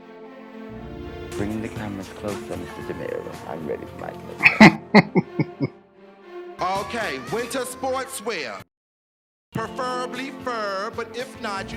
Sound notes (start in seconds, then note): 4.4 laughing